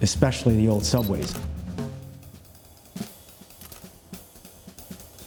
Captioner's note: camera clicks; percussion music continues